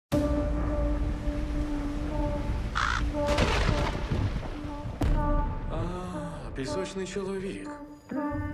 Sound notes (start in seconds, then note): 0.0 mysterious music plays; 2.5 thunder rumbles; 2.7 raven caws